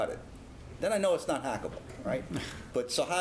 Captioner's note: laugh